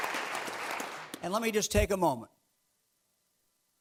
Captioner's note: clapping